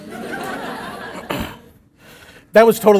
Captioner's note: laughter